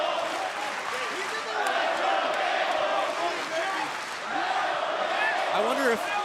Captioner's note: fans chanting